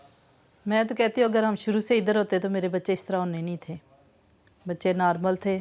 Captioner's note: speaking in foreign language